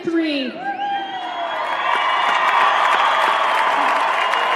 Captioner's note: cheering